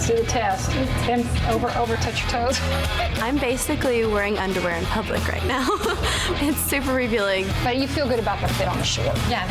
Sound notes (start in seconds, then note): 5.4 laughs